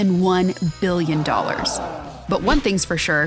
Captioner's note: crowd gasping